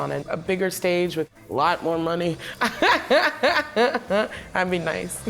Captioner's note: laughs